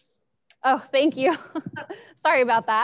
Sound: laughs

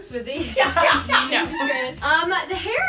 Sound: laughs

